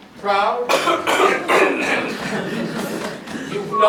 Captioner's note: coughing